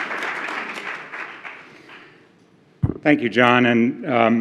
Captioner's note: applause